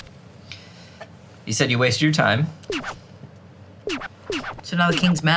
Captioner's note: record scratching